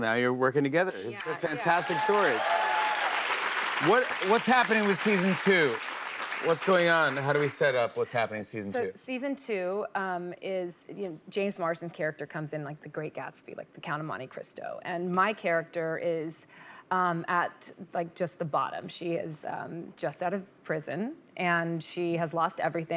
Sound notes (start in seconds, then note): 1.2 cheers and applause